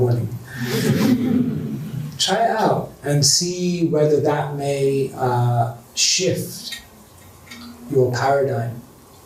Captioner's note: chuckles